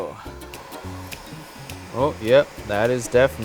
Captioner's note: heat gun blowing